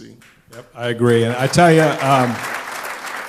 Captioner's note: applause